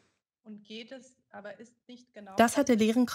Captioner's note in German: Stimmen im Hintergrund